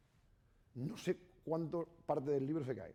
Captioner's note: speaking spanish